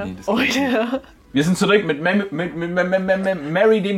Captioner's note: stutters